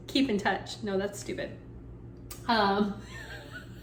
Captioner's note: laughs